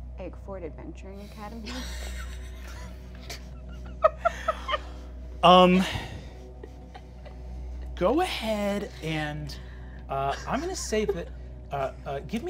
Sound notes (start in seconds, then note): 1.6 players laughing